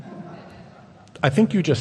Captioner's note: audience chuckles